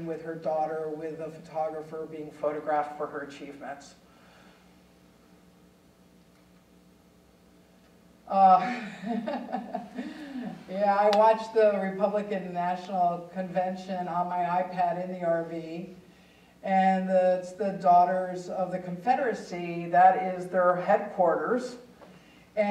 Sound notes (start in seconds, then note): 8.4 chuckling